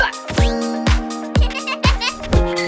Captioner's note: children giggling